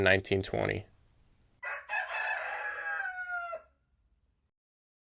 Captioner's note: rooster crowing